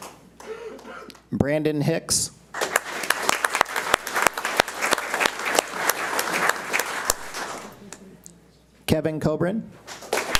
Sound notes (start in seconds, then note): 2.5 audience applauds